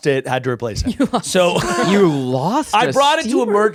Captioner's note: laughing